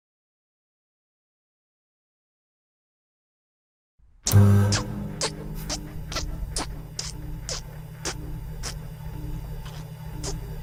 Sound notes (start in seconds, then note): 4.2 pacifier sucking